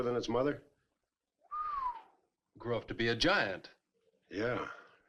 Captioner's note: whistles